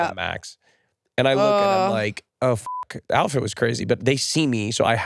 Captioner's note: beep